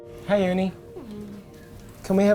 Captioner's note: hums